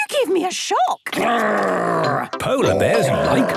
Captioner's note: loud growls